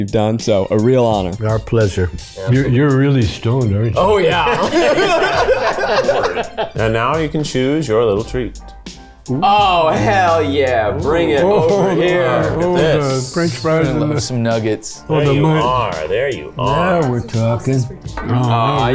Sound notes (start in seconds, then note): 4.7 group laughs